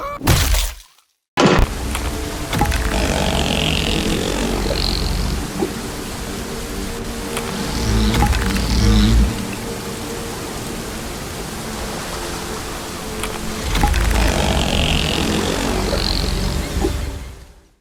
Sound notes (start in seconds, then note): 0.0 screaming; 0.3 crunch; 1.7 sky whale noises